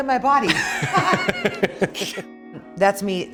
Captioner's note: both laughing